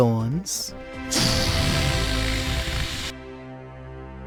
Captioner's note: deflating sounds; scary, triumphant music